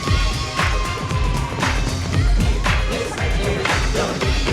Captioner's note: audience cheering